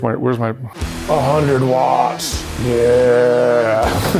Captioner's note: laughs